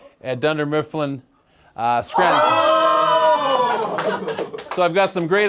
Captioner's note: collective celebration, scattered clapping